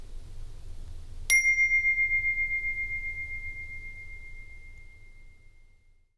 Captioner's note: chime